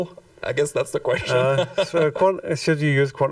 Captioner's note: laughs